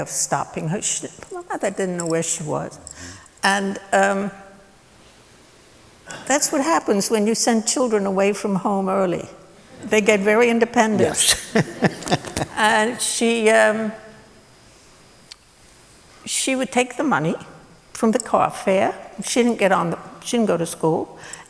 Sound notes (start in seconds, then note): 11.0 laughter